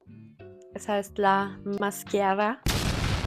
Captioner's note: dramatic explosion